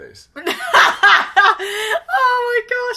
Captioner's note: laughs